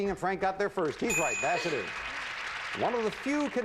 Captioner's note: audience applauding